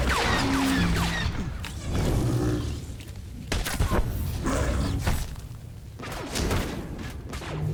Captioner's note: exploding